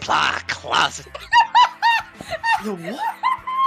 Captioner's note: laughter